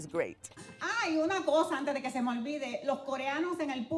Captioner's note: speaking Spanish